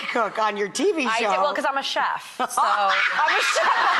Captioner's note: laughs